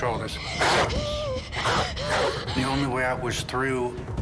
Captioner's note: gasping; barking